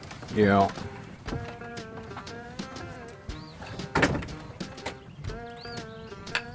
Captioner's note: footsteps and closed door